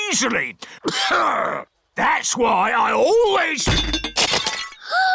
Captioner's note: clears throat; peppa gasps